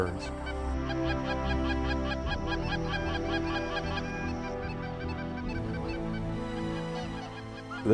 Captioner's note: goose calls